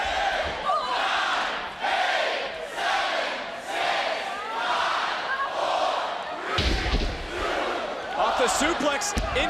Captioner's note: crowd counting down